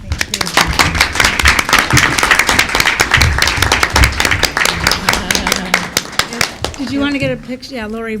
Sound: applause

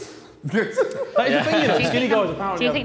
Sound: JJ laughing

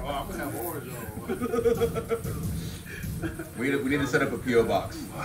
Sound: laugh

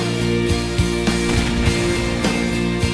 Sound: bang

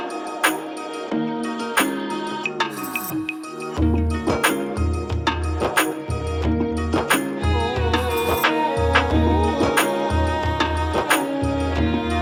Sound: claps

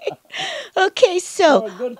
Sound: laughs

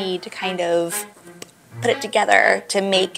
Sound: mouth popping sound

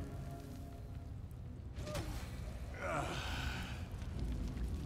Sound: grunt

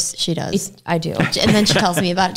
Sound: laughs

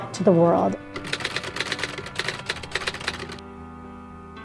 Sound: typing on typewriter; inspiring piano music

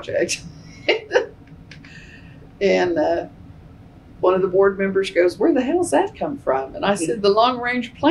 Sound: laughs

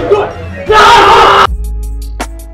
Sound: yelling

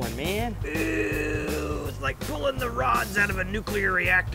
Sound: groans

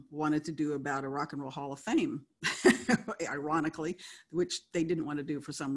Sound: laughs

